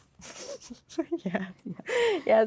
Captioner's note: laughing